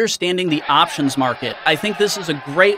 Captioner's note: crowd cheering